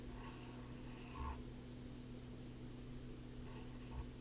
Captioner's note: pen scratching